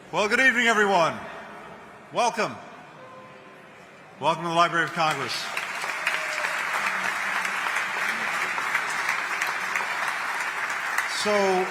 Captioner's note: applause